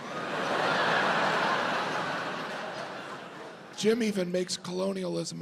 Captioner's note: audience laughs